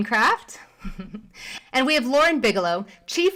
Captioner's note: chuckles